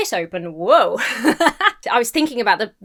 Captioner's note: laughs